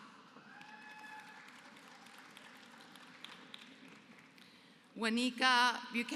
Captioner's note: applause